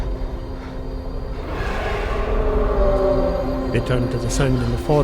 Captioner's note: A roar